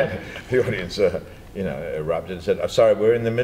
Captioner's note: laughter